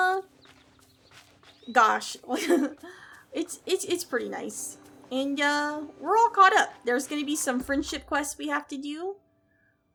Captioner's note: laughs